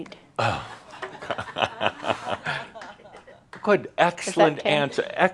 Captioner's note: chuckles